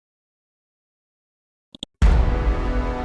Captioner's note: mouse clicks; dramatic chord